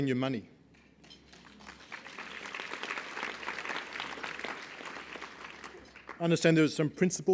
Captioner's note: applause